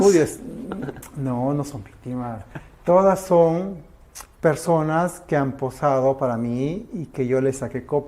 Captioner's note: laughs